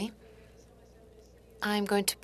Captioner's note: speaking French